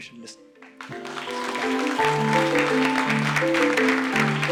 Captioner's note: applause and music playing